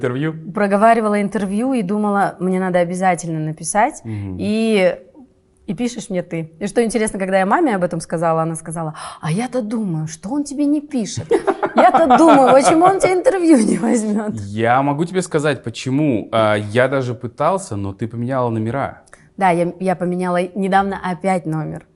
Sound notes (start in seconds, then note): 15.4 laughs